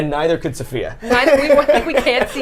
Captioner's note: laughs